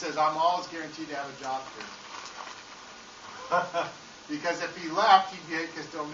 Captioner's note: laughing